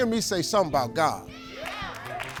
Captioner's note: crowd